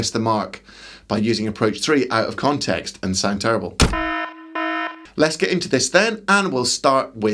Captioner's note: klaxon